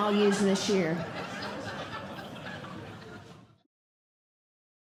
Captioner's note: audience Laughing